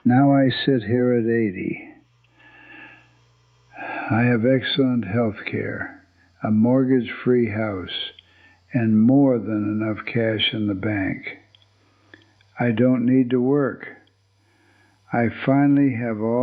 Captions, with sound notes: Now I sit here at eighty. [sighs] I have excellent healthcare, a mortgage-free house, and more than enough cash in the bank. I don't need to work.